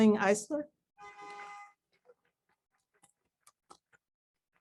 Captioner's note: horn honks